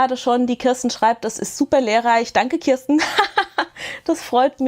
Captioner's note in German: gelächter